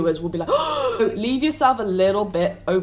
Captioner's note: gasp